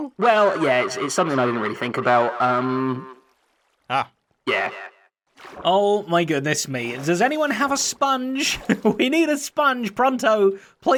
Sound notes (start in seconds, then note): 5.6 normal voice